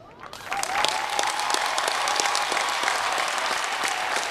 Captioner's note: applause